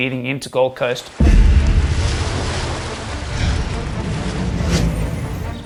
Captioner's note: ocean sounds